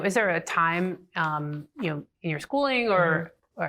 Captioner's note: none